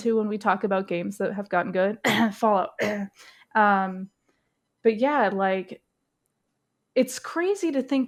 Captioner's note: fake cough